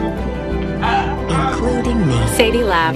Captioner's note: laughing